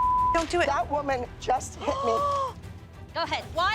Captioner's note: gasps